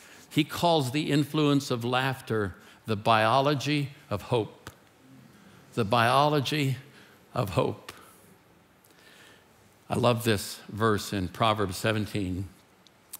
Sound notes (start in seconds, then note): none